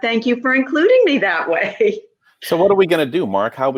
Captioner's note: laughs